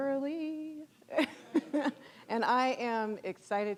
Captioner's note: audience laughing